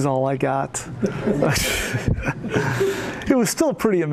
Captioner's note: laughter